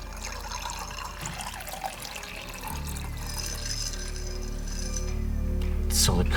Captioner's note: ice clinking; liquid sloshing